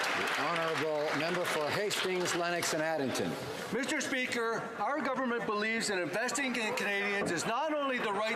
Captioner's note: applause